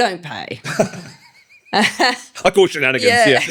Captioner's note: laughing